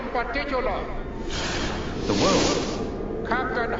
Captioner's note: crashing